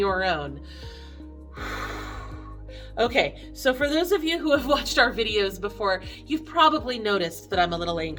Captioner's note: deep breath